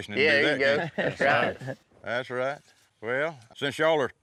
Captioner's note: everyone laughs